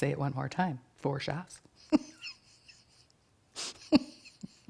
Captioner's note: chuckles